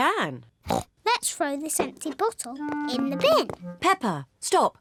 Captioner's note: snorts